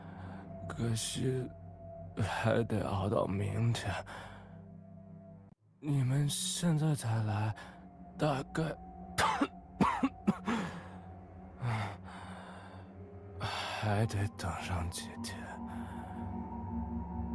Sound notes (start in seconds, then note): 9.7 cough